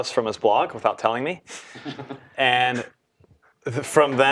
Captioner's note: laugh